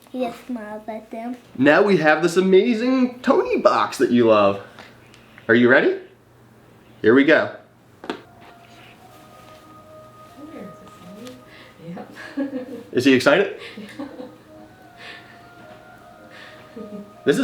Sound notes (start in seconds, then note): 9.9 ethereal music; 13.4 chuckles; 15.3 ethereal music continues